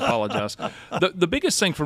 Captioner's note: laughing